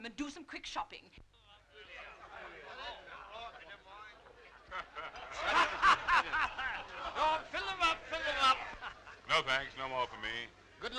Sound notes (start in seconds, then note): 1.6 crowd chattering; 7.8 laughing